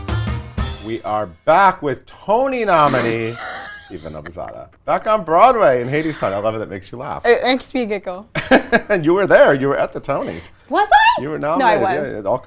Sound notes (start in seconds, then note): 2.8 laughs